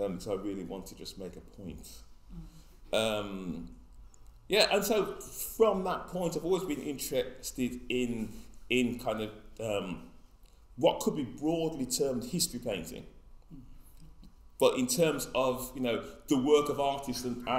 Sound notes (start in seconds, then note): none